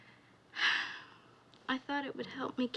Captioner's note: sighs